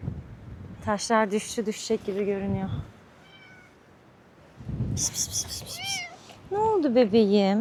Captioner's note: shhh shhh shhh shhh p